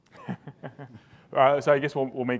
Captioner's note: laughing